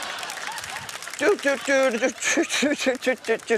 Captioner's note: laughter; hums circus riff